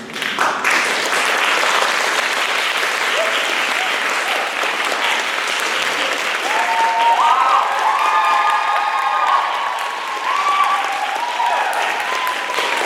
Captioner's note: applause, cheers